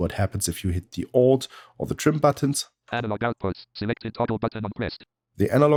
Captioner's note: automated voice